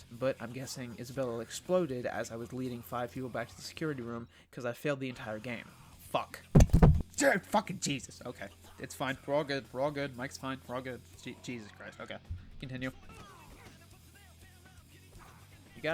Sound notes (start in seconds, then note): 6.5 sounds of me smacking the mic and it falling